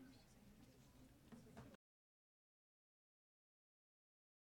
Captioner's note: people chattering